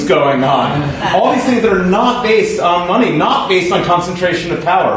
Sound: laughter

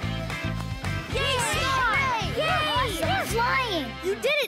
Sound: cheering

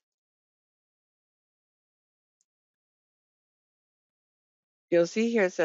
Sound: 5 seconds pause

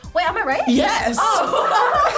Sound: laughs

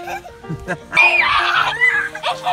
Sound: screaming - shirt

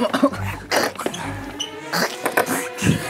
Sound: the sound of the ball dropping down

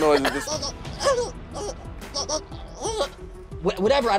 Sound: squirrel noises

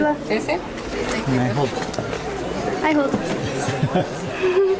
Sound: laughter

